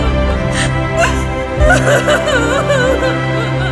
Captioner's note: sobbing loudly